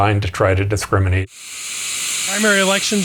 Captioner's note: TV static